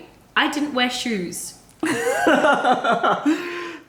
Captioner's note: laughter